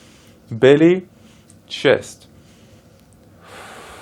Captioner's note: exhales